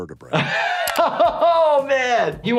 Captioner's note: laughing